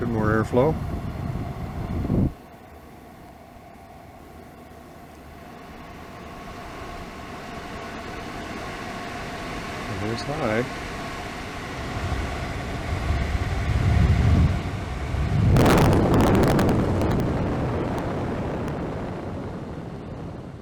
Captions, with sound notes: A bit more airflow. [louder fan sound] And there's high! [even louder fan sound]